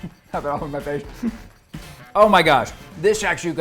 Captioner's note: chuckles